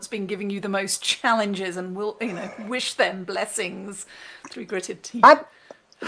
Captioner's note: through gritted teeth